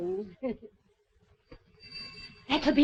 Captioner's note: bell ringing